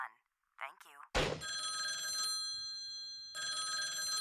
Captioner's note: ringing